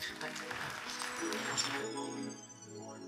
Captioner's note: audience applauding; mid-tempo electronic music